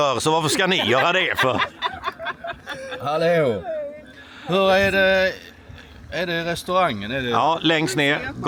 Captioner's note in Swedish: skratt